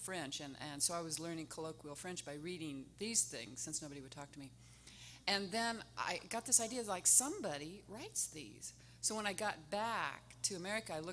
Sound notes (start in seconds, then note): none